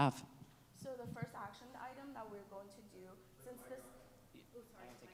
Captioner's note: speaking faintly